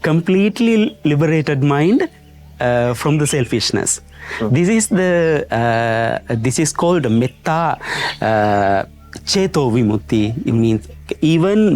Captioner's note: foreign language 00:08:39